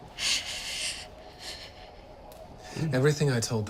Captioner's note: Daphne breathes shakily